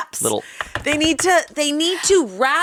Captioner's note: table thumping